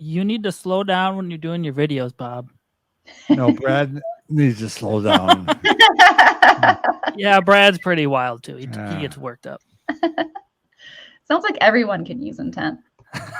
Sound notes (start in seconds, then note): 4.3 chuckles; 4.4 laugh; 8.6 chuckles; 13.1 chuckles